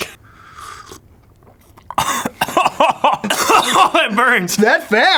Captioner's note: choking